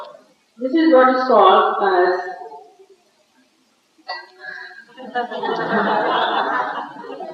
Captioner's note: laughter